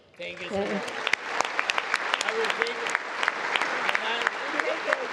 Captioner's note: congress applauding